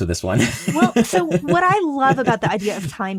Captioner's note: laughs